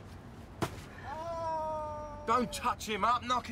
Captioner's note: traffic warden groans